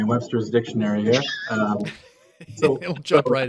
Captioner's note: laughing